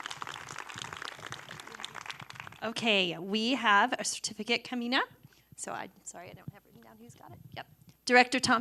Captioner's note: applause